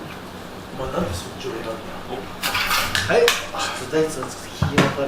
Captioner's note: laughs